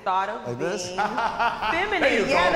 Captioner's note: laughs